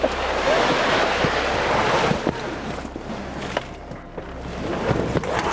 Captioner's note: boat sliding off trailer